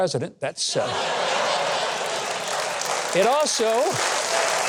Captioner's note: audience laughing